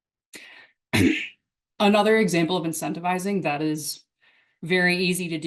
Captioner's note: clears throat